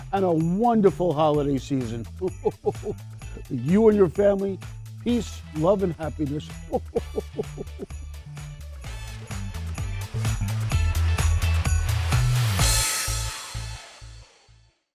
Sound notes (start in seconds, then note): 2.2 chuckles; 6.4 chuckles; 8.1 upbeat cheerful music